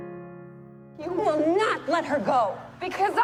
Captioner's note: voiceover; shouting